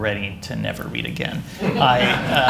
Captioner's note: laughter